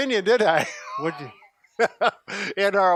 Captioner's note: laughs